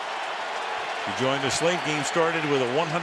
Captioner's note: cheering